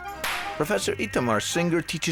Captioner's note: hands clapping